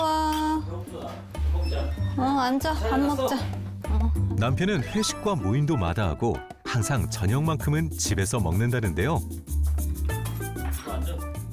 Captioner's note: voiceover